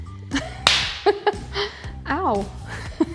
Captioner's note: laughs